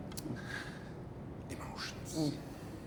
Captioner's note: takes a deep breath